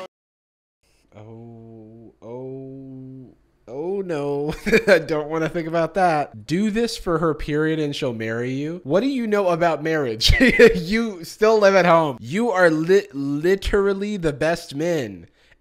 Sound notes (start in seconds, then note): 4.5 uncomfortable laugh; 10.3 laughs